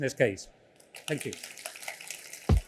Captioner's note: applause